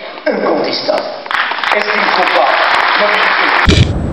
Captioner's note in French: applaudissements